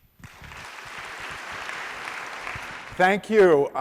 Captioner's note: applause